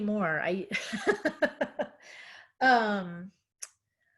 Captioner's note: laughing